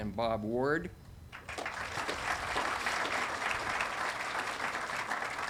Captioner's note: audience applauding